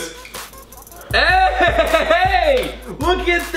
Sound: laughs

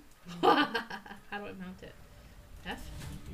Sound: evil Giggle

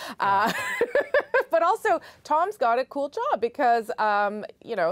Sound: laughter

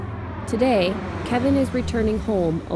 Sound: plane fly over

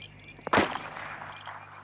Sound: gun shot

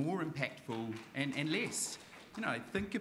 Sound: audience applauding

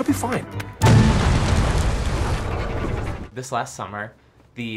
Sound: explosion

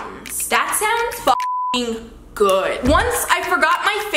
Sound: beep

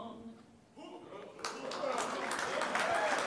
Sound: applause

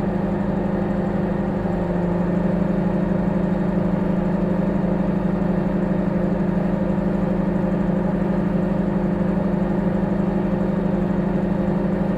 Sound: microwave humming

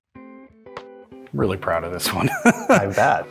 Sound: laughing

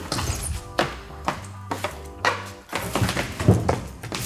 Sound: stomping

